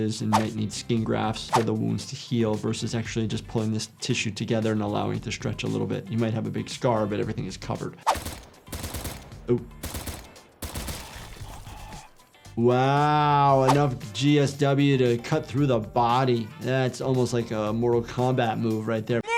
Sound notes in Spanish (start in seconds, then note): 8.0 disparos de pistola